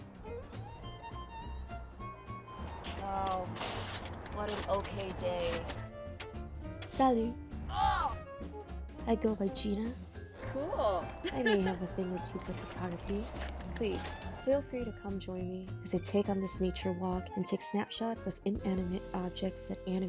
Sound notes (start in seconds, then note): 7.6 groans; 10.4 laughs